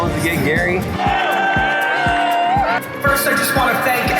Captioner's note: crowd cheering